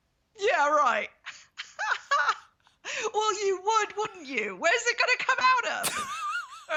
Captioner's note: laughs